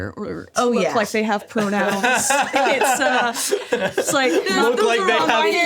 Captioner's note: laughing